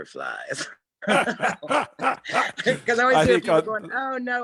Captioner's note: laughs